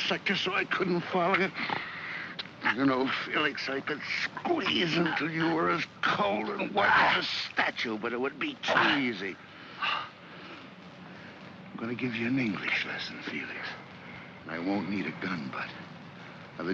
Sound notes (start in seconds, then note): 1.5 Kowalski snarls; 9.6 Felix gasps